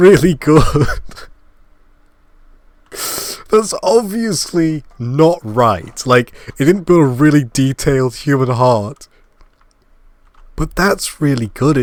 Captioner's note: laugh